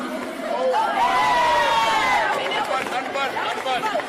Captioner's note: people cheering